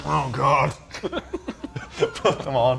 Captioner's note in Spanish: Risas